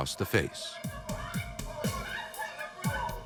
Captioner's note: screaming